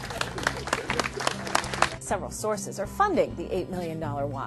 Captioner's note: applause